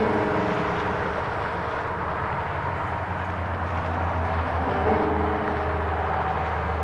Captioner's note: eerie piano music; wind whistling